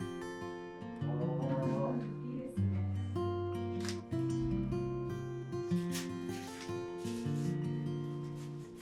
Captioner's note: laughs